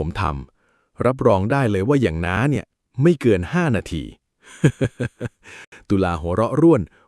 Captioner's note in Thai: เสียงหัวเราะ